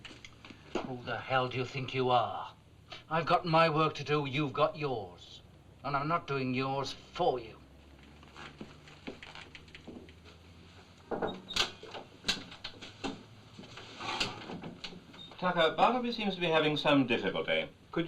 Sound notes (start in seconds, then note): 11.1 knocking; 11.1 door opens; 14.0 door closes